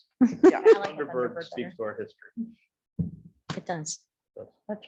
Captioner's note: laughing; murmurs